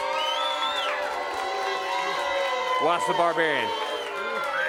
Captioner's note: crowd cheering